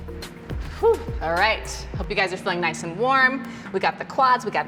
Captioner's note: sighs